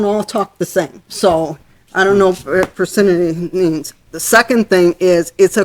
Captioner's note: voice muffled